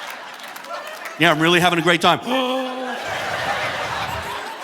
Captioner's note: audience laughing; gasps; audience laughing